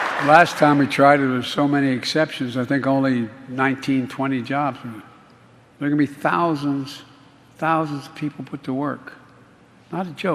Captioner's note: applause